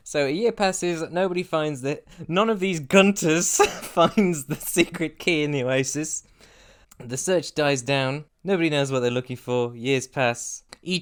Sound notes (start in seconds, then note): 3.5 laughter